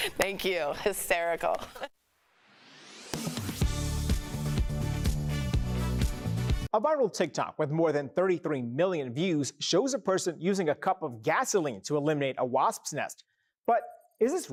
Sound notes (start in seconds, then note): 1.6 laughter